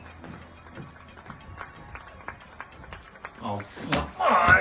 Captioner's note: distant applause